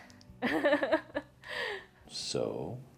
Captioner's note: laughs